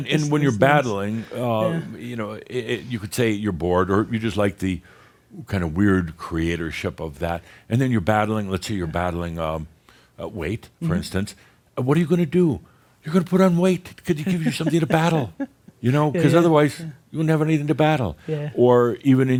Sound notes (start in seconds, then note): 14.2 she chuckles